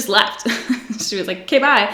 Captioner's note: giggles